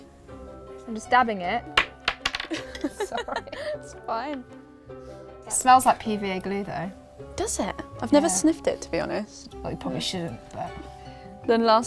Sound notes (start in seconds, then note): 1.9 clanging; 2.6 laughs